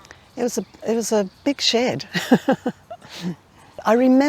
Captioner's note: laughing